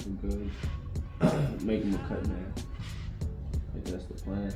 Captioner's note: clears throat